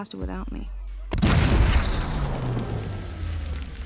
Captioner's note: explosion